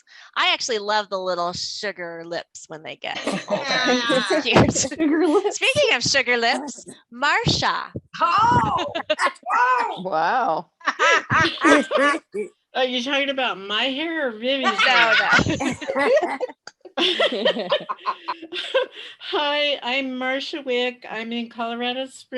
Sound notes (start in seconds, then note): 10.8 laughter; 16.4 laughter